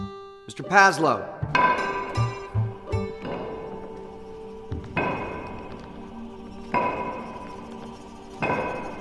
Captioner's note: wood pounding on concrete growing louder